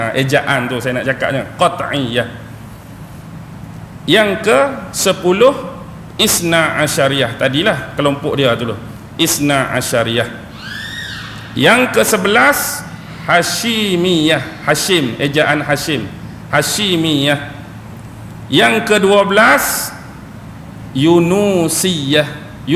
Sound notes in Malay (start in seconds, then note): 15.0 ketawa